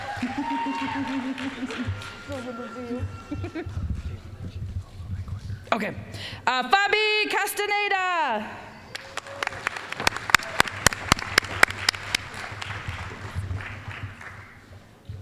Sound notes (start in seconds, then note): 0.0 applause; 4.1 whispering; 8.9 applause